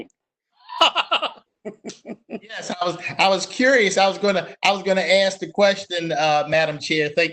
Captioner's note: laughs